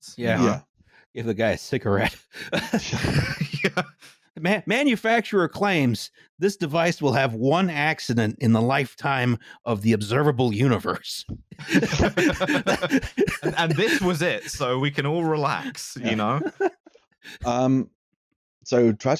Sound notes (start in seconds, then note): 2.3 laughing; 11.5 laughter